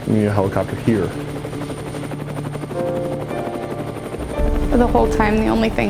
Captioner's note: helicopter blades whirring